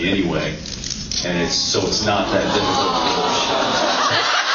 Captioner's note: awwwws